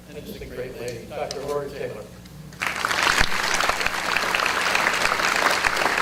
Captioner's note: audience applause